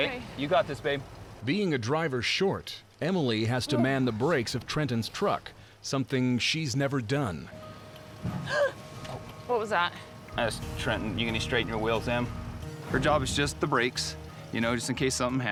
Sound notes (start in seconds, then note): 8.5 gasp